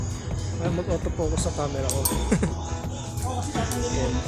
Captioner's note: laugh